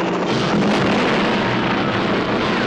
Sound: explosion

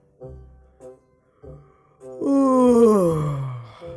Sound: yawns

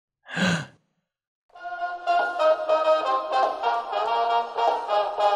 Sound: deep breath

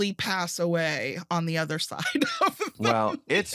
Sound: laughs

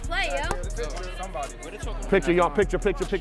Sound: overlapping chattering

